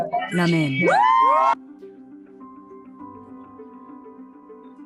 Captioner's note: cheering